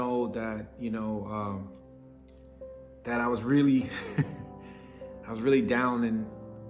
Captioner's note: chuckles